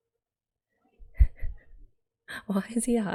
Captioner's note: laughs